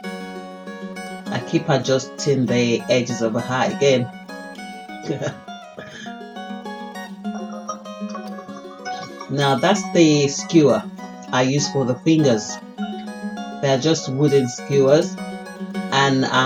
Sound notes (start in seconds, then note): 7.2 giggles